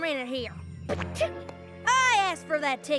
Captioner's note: spits